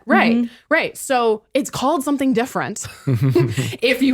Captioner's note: laughs